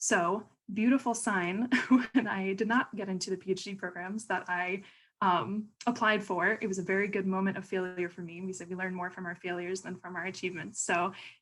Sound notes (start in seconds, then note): 1.7 laughter